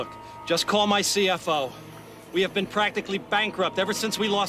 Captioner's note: men chattering in German